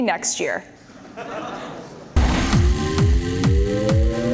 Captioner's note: audience laughter; upbeat techno music